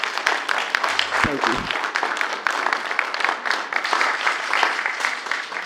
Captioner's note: applause